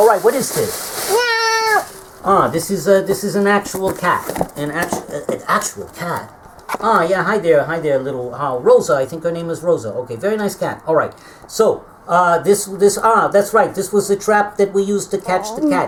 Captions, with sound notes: What is this? [meow] Ah, this is an actual cat. An actual cat? Ah, yeah. Hi there, hi there, little...Rosa. I think her name is Rosa. Okay, very nice cat. Alright, so...that's right. This was the trap that we used to catch the cat.